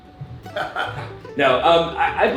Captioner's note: laughs